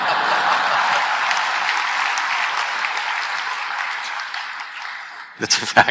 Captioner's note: laughter/Applause; both laugh